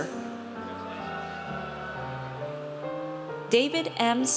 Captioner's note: audience cheers